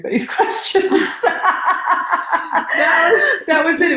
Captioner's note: laughing